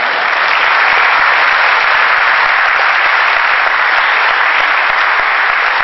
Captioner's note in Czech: potlesk